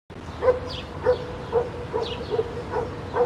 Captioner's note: dogs barking